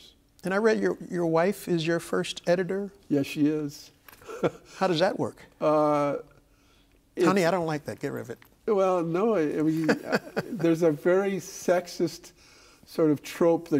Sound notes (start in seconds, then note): 9.7 laughing